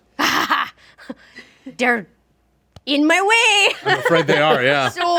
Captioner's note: laughs